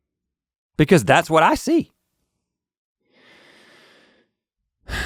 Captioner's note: sighs